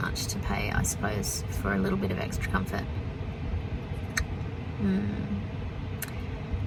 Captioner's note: clicks tongue